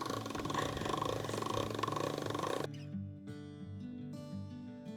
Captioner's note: laughing; pasta machine grinding; gentle music continues